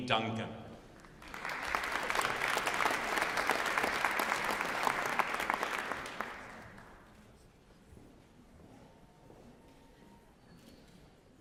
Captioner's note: applause